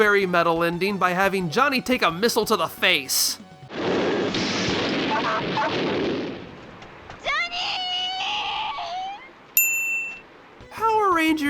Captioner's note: whimper